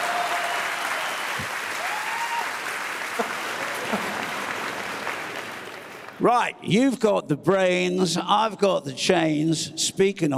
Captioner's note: laughter